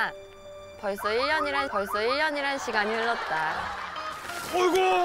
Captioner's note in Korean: 촤아악